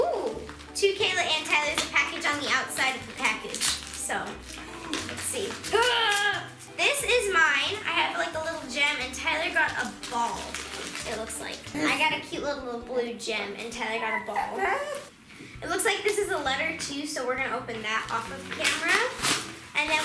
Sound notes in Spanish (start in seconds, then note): 5.7 gruñidos